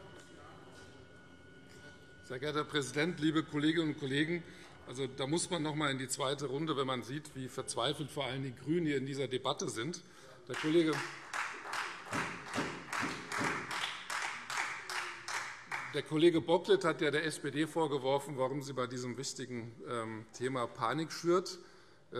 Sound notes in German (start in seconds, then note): 10.5 Beifall Freie Demokraten